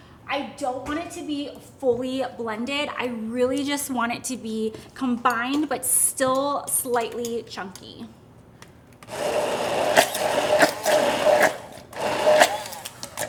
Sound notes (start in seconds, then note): 9.0 blender grinding; 9.1 mixture sloshing